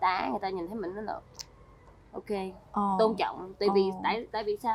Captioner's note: clicks tongue and nods